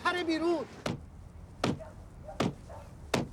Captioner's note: thumping